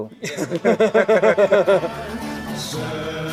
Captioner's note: laughter